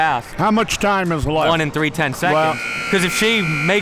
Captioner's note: clock buzzes